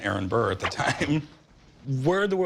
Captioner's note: chuckles